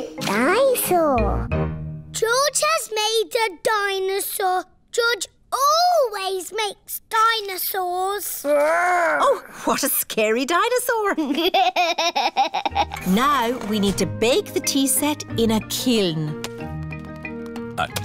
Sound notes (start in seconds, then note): 11.2 chuckles